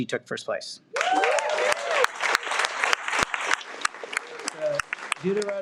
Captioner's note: audience cheers and applauds